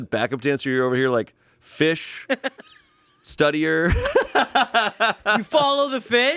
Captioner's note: laughs